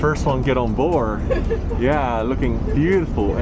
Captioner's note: laughs